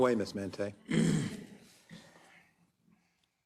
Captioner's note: cough